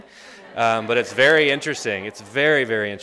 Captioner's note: laughter